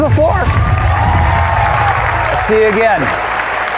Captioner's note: cheering and applause